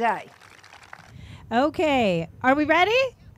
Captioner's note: group claps